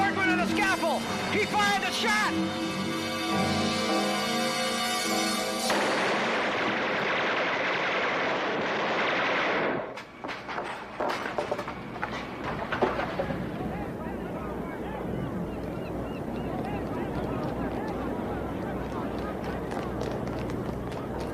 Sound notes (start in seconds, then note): 7.9 gun firing; 17.7 people chattering